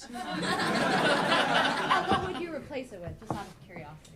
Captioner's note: audience laughing